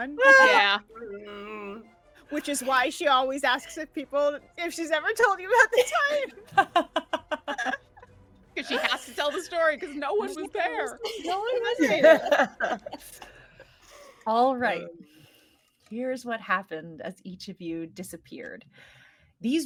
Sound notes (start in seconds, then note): 5.5 laughing